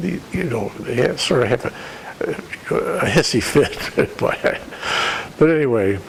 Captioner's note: laughter